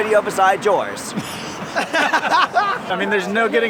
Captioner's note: laugh